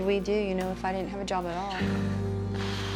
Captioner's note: sighs deeply